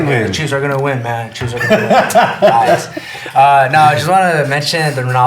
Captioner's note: nervous laughter